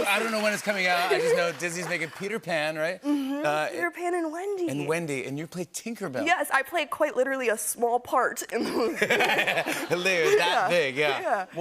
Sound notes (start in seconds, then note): 8.6 laughter